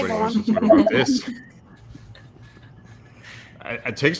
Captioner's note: laughing